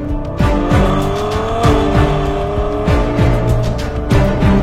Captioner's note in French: Vrombissement des moteurs